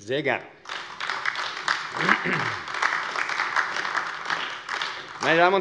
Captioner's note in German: Beifall AfD